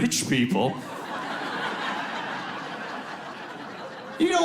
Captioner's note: audience laughs